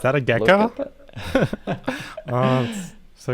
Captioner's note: laughter